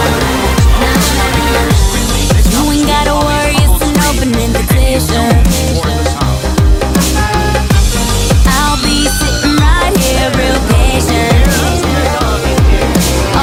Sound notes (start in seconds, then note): 8.4 Sweet Polly Screams